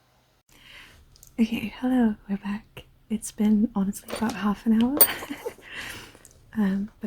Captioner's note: laughs